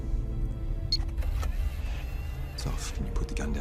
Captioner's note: beeping